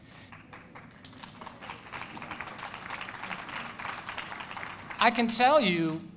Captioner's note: applause